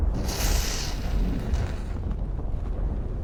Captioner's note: match lights